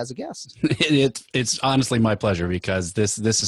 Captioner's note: laughing